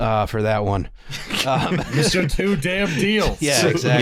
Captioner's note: laughter